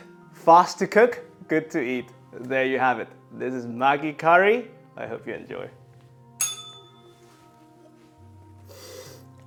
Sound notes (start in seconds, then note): 6.4 bell rings